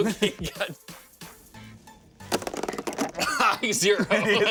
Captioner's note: plops; laughs